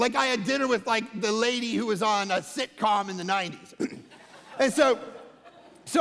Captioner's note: congregation laughing